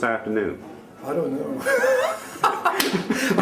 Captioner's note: laughs